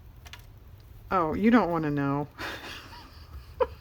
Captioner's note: laughs